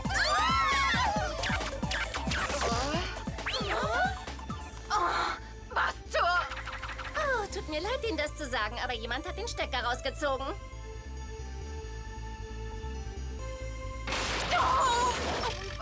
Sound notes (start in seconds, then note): 0.0 laughing; 1.7 screaming